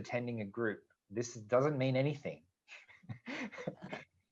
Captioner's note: laughs